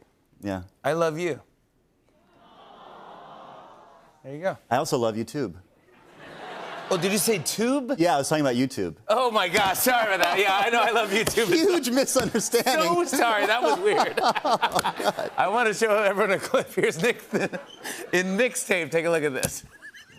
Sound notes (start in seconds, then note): 2.2 audience aws; 5.9 laughter